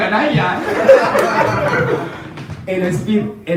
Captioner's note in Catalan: rialles